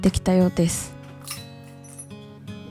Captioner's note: sound of keys